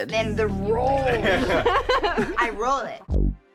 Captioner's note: laughter